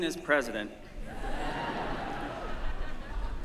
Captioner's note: laughter